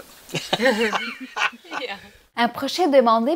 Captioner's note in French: Rires